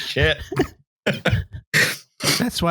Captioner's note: laughter